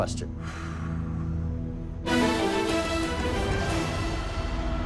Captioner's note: exhales; dramatic musical flourish